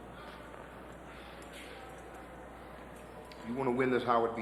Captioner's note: people chattering